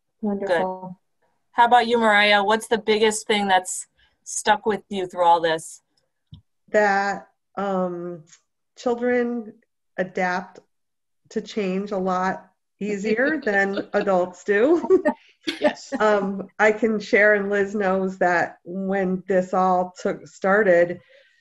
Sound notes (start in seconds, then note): 13.2 laughter